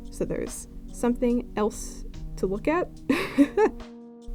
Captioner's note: laughs